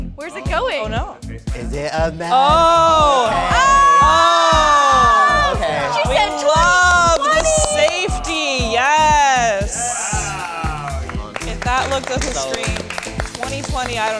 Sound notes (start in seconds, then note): 4.1 audience applauds; 10.1 audience applauds